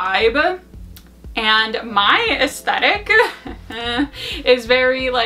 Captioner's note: laughs